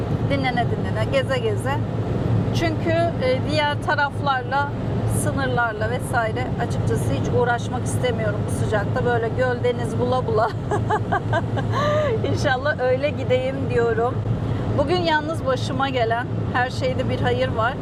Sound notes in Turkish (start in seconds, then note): 10.4 kahkaha